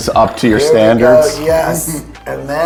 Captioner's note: chuckles